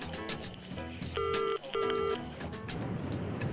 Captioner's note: phone dial tone beeping